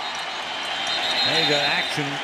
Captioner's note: whistle blows